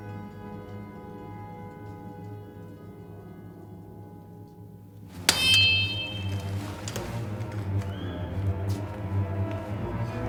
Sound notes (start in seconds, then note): 5.2 sword clangs; 6.9 suspenseful music